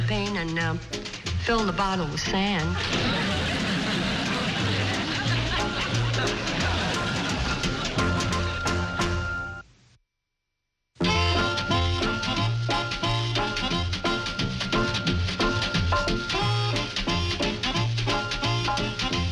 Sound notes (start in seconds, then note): 5.3 audience laughs; 13.2 upbeat music